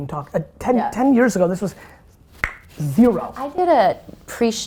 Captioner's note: clicks tongue